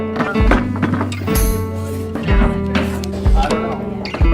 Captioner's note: pounding noises